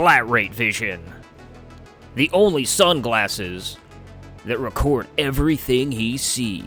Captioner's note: mouth explosion noise